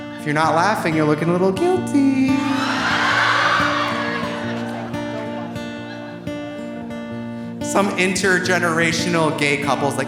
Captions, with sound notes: If you're not laughing, you're looking a little guilty. (audience cheering) (audience laughing) Some intergenerational gay couple is like,